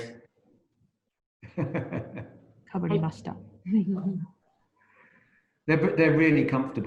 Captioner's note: laughs